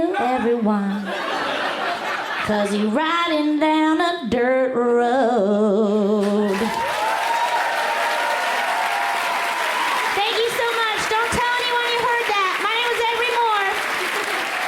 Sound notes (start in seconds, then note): 2.1 crowd laughs; 6.4 crowd applauds loudly